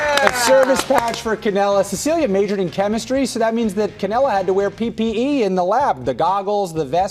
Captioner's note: applause